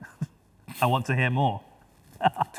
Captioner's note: chuckles